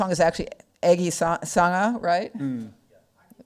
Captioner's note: speaking foreign language